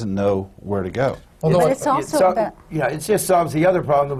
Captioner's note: none